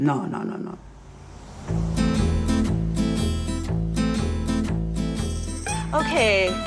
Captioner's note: speaks in foreign language; vehicle droning; upbeat music